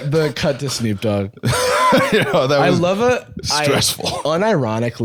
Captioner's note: laughs